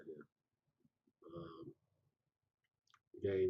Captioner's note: pause